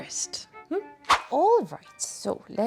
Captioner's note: swoosh